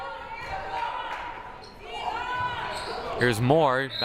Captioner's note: crowd murmuring